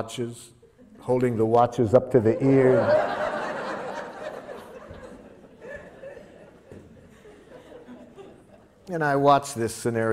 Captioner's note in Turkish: Gülüşmeler